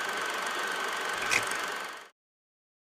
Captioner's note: projector tape cuts off